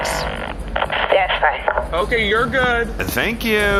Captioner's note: beat, speaks into mic